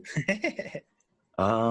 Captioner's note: laughing